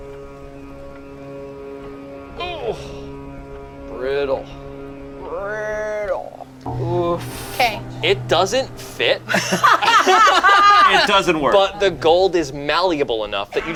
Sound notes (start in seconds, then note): 0.2 suspenseful music; 9.2 group laughs